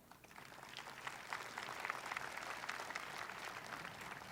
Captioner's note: audience applauding